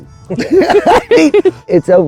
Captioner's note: all laughing